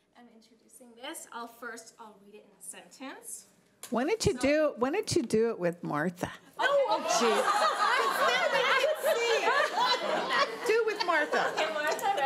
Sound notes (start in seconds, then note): 6.6 laughing